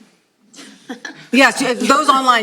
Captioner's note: laughter